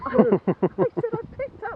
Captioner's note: laughing